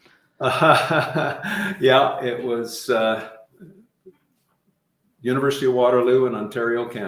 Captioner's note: laughing